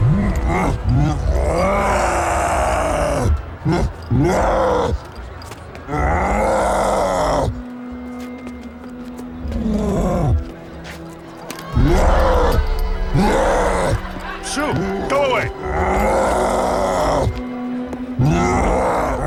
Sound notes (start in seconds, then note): 0.0 roars; 12.9 crowd laughing; 15.4 roaring